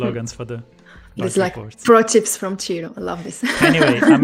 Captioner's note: laughs